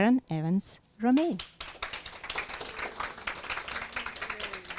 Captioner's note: applause